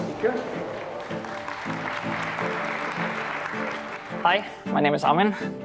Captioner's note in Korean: 박수